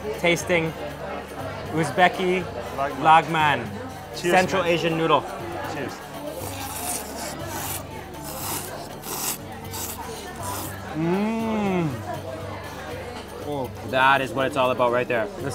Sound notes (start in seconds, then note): 6.2 slurping